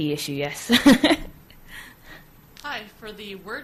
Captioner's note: laughs